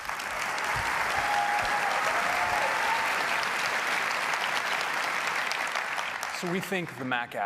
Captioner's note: applause